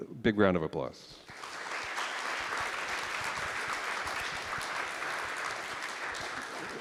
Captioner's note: applause